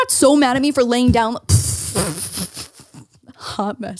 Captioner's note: laughing